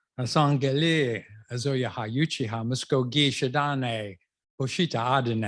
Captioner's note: non-english speech